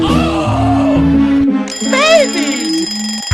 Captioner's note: alarm clock